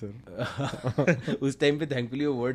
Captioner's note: laugh